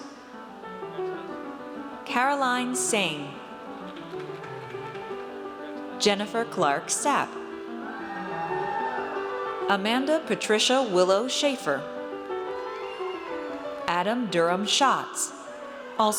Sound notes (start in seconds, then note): 7.8 audience cheers; 12.4 audience cheers